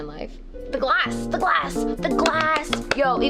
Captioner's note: claps